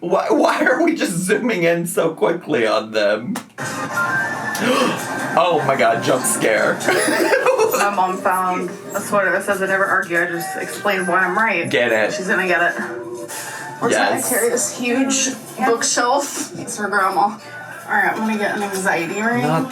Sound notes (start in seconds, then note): 4.5 gasps; 7.3 laughs